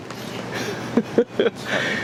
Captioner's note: laughing